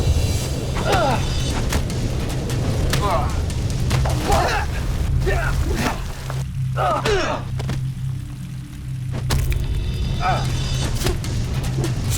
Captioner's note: fight sounds